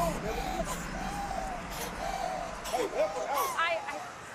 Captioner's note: Jada gasping